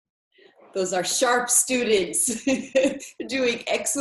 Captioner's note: laughs